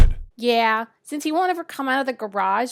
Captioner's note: lightning